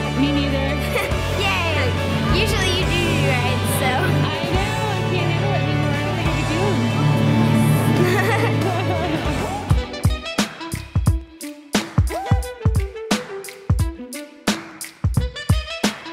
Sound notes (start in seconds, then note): 7.9 laughs; 10.7 upbeat music